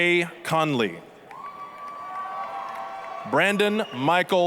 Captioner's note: applause, cheering